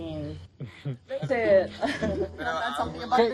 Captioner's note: chuckles